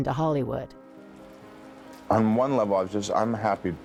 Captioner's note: rain patters